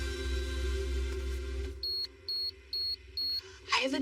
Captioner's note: beeping